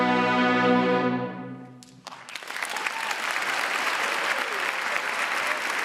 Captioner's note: audience clapping and cheering